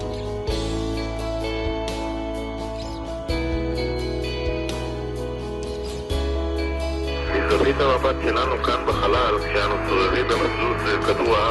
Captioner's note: Ramon talking from space